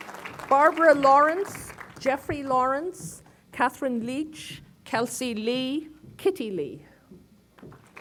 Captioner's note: applause